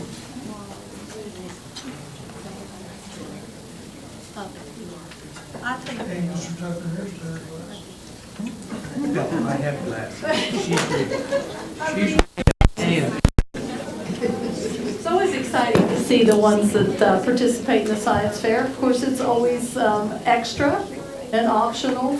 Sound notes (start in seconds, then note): 0.0 crowd talking indistinctly; 7.0 crowd talking indistinctly; 13.5 crowd talking indistinctly